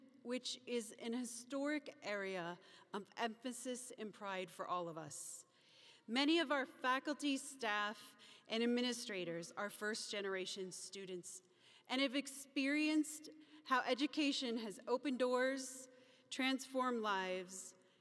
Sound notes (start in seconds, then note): none